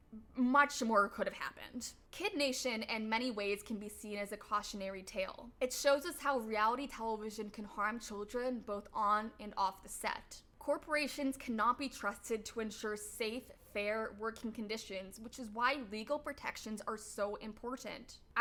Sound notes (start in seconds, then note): none